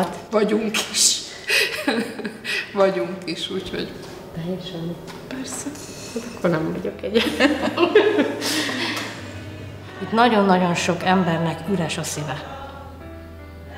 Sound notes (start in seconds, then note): 6.9 laughs